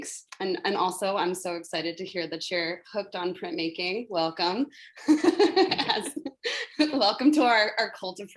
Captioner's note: laughs